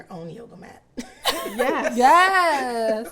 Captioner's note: business leaders laugh